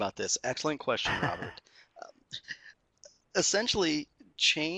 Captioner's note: laughing